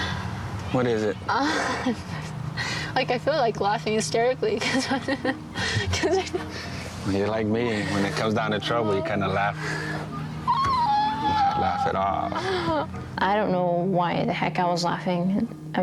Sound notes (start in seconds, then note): 10.6 chuckles